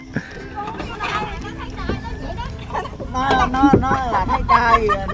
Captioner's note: laugh